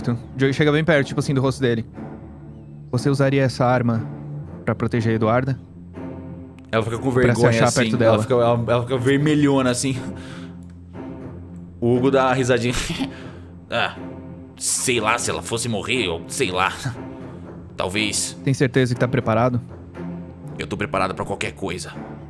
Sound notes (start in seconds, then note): 13.0 giggles